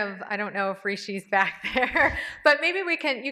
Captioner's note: laughs